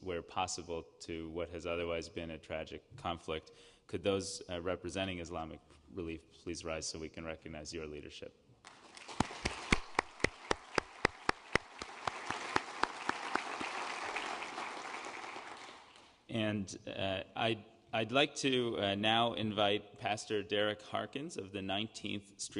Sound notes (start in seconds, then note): 12.3 applause